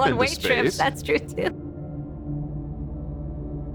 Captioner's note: laughing